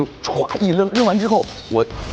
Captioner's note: smashes the glass